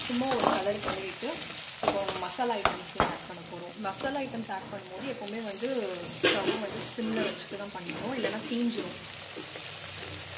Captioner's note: stove simmer